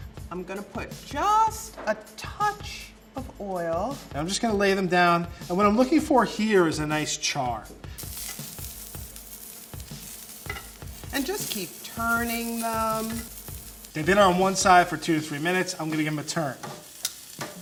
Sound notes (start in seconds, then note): 8.1 meat sizzling